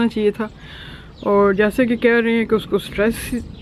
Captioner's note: lightning sounds